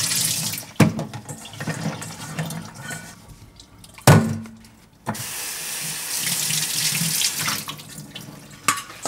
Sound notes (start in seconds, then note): 5.2 water running